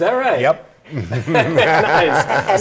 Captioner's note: laughter